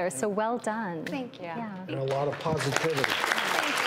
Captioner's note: audience clapping